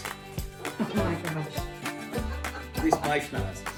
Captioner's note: laughs